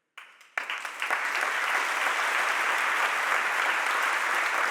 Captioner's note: audience applauding